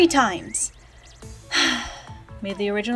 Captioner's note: sigh